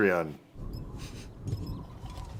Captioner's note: sniff, sniff